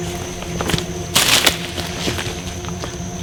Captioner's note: branch crashes to ground